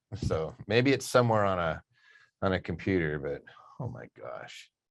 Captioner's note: none